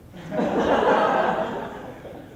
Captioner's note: heavier laughter